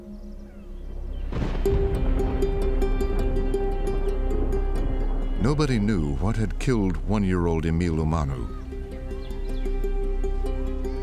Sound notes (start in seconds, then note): 0.8 thunder rumbling